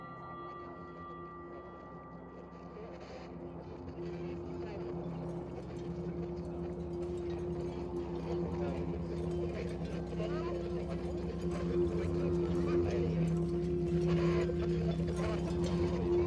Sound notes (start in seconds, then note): 0.1 wind howling; 10.6 static crackling